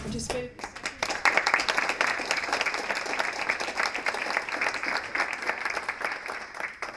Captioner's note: applause